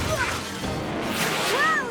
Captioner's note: speaking in native language; crash!